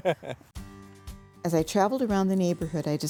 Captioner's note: ^laughter^